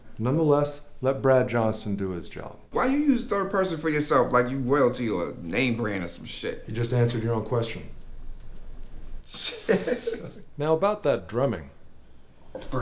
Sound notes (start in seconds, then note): 9.4 laughter